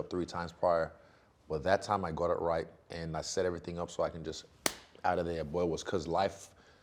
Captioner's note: clapping